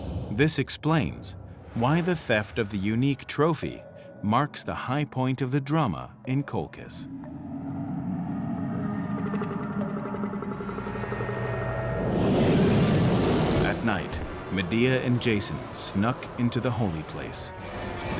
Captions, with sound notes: This explains why the theft of the unique trophy marks the high point of the drama in Colchis. [flames roaring] At night, Medea and Jason snuck into the holy place.